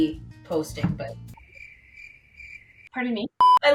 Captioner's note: crickets chirping